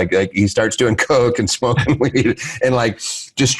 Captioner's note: giggles